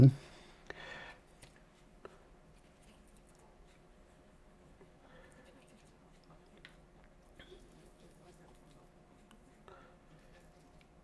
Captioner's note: silence